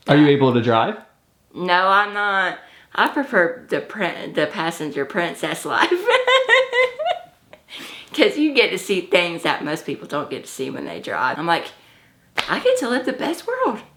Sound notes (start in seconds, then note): 5.5 laughs